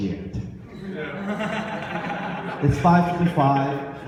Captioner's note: audience laughs